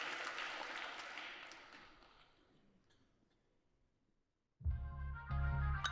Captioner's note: applause